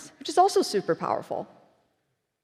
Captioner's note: none